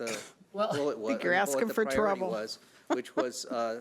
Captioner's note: laughs